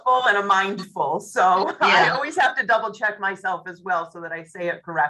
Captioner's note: laughs